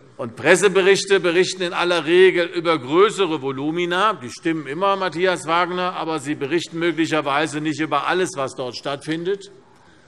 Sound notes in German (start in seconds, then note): none